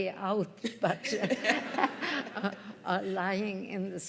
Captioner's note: laughter